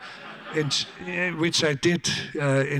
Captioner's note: audience laughs